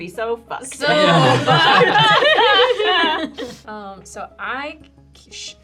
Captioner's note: group laughing